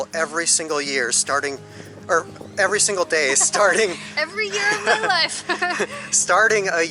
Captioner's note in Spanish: Risas